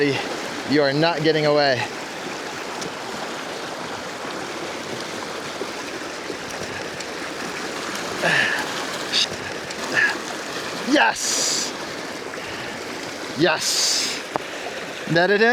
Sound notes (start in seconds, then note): 2.7 water flowing